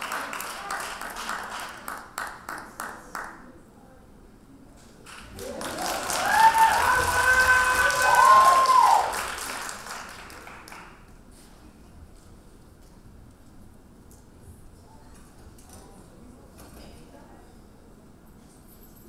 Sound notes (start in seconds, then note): 5.0 audience applauding; 13.7 audience chattering